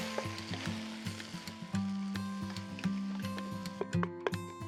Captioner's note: pan sizzling